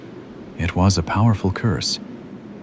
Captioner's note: irony, warm knowing smile in the voice